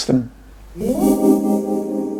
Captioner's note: ethereal ding